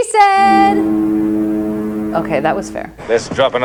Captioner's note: foghorn sound